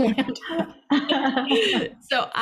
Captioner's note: everyone laughing